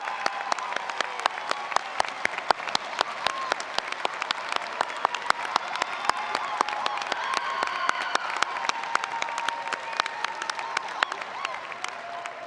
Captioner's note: applause